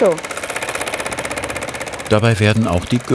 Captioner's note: rattling